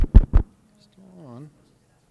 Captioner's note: microphone thumping; speaker speaking faintly